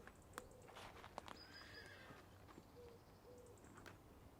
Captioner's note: horse neighing